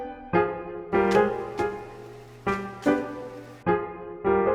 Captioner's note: fabric pieces plopping down in time to the music